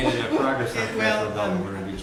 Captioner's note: laughter